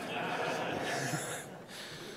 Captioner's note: chuckles; laughter